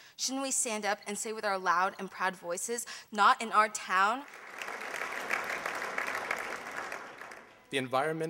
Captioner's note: applause